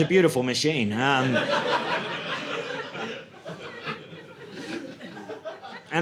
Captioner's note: audience laughing